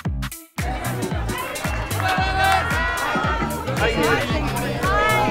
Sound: journalists chattering

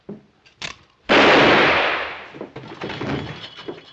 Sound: gunshot

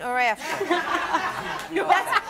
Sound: audience laughs

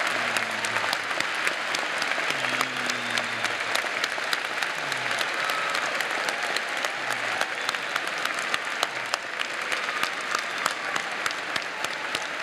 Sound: applause

